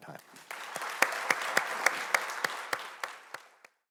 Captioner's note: audience clapping